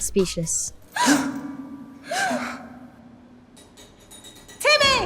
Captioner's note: gasps